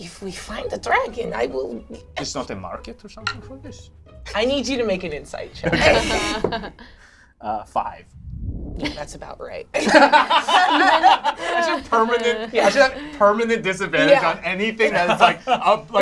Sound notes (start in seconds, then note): 9.8 all laugh